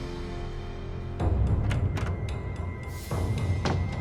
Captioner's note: door opens